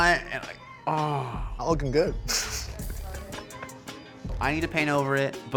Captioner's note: snickers